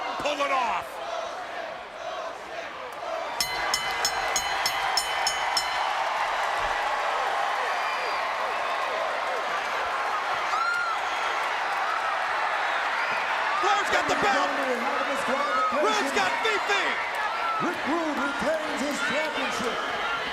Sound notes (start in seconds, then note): 0.9 crowd cheering; 3.4 bell ringing; 4.6 crowd cheering